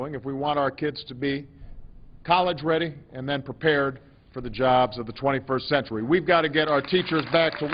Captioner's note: applause